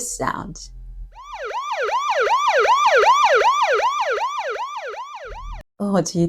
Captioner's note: sound of police car siren